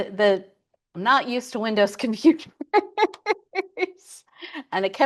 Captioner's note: laughs